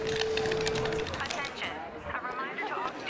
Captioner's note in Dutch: voice from pa